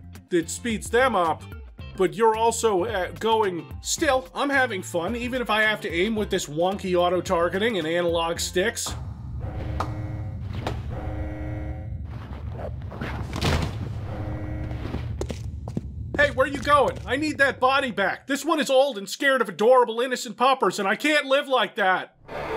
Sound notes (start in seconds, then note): 9.5 claps